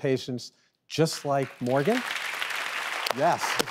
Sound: audience applauds

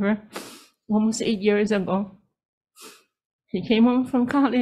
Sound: sniffs

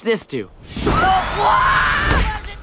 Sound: screaming

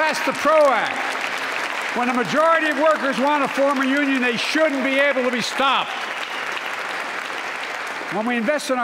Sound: applause

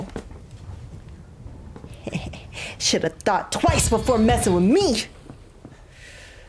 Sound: laugh

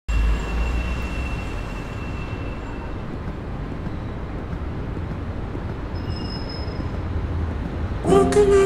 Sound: noisy street

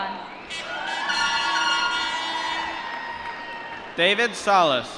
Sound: applause

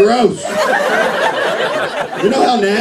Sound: laughter

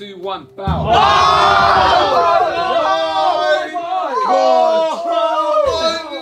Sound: drum beats; all screaming

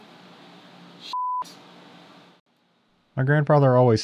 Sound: beep

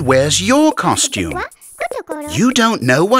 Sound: speaks gibberish

